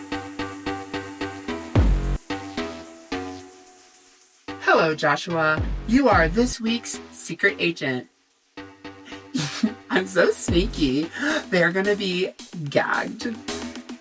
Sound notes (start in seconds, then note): 9.2 snickers